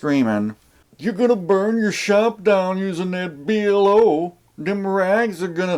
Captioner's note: redneck voice